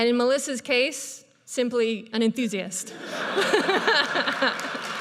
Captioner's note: audience laughs; laughs